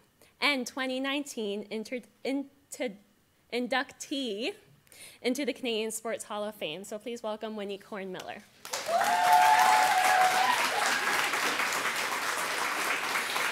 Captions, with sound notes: and 2019 inter- in- ta- inductee into the Canadian Sports Hall of Fame. So please welcome Waneek Horn-Miller. [audience applause]